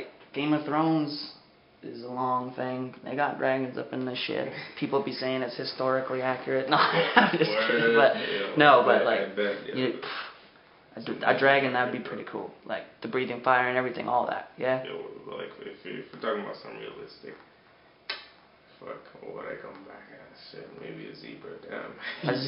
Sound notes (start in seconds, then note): 18.0 snaps teeth